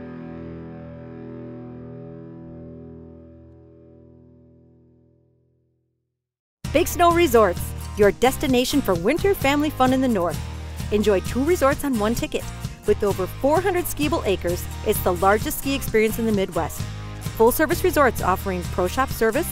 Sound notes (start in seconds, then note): 6.7 voiceover